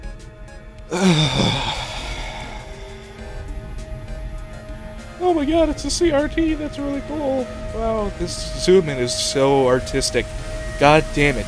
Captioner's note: sigh